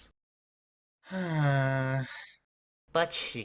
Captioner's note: sighs